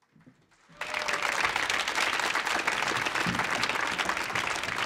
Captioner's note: audience applauding